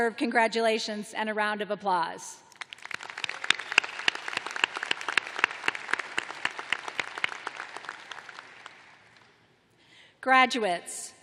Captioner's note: applause